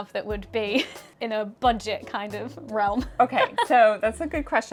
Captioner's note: laughs; laughs